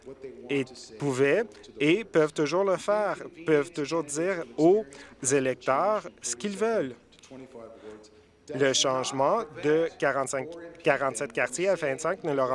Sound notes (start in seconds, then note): none